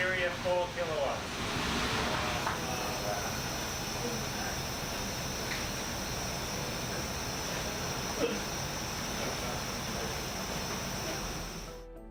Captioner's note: sounds of a fire crackling and roaring can be heard